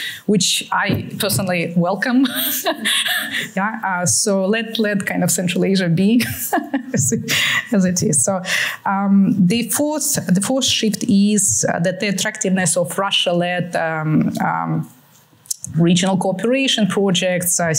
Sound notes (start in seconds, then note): 2.2 laughter; 6.3 laughs